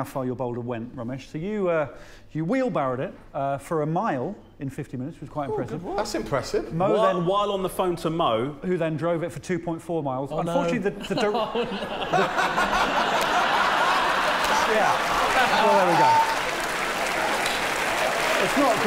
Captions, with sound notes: he showed up to pick up a boulder in 50 minutes, it's an incredible turnaround. When he turned up, he said, "You never guess, some crazy shithead wanted me to go to Camber Sands". [laughter] [applause] Shall we see how Mo actually did? Yeah, perhaps you're being unfair to Mo.